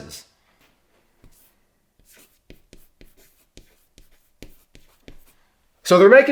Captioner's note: chalk scraping on chalkboard